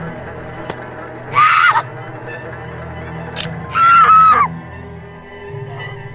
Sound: screams

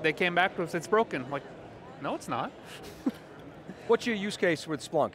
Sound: he laughs

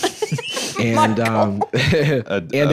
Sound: laughing

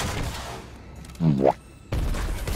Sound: boo-womp Sound effect

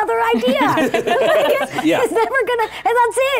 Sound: giggling

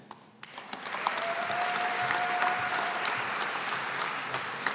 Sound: audience applauding

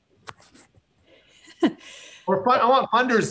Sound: chuckles

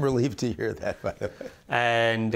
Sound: laughter

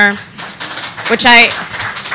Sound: audience applauding

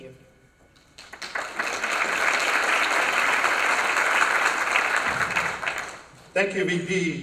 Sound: applause

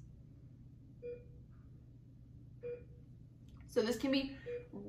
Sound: beeping

